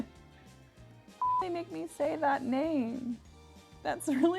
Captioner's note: beeps